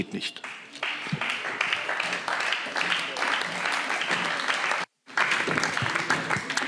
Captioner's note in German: Beifall CDU, BÜNDNIS 90/DIE GRÜNEN und SPD